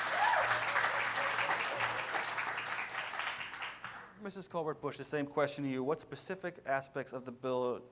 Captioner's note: cheering